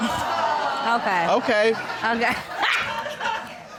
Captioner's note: laughs